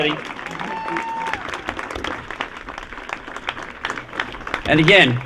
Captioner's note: applause